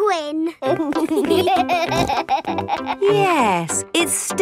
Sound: laughing

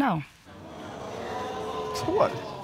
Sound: audience exclaiming

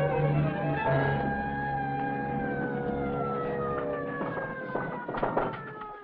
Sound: sirens blaring in distance; knocking on door

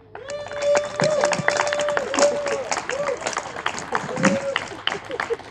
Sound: audience applauding and cheering

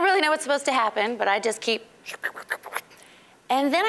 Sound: slurping

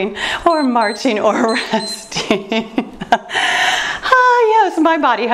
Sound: timer beeps

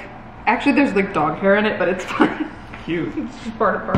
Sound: laughs

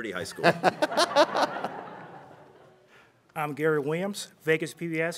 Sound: laughter

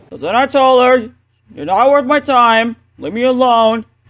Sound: none

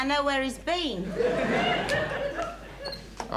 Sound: audience laughing

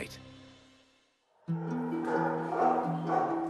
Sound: dogs barking

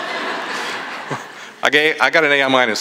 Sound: laughter

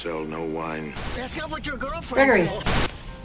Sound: voiceover; voiceover

